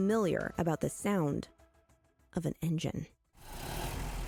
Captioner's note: SFX of an engine